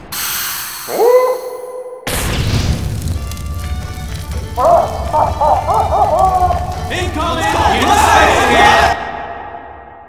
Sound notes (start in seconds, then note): 4.6 "Pyro" laughs at Engie's misery